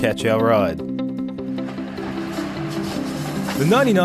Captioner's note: train rattling